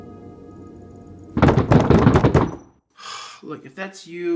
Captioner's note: knocking